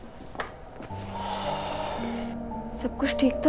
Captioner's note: Aniket sighs